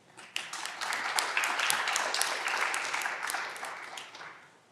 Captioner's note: audience clapping